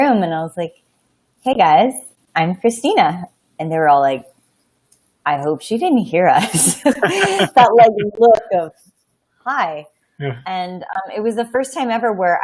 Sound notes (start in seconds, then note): 6.5 laughing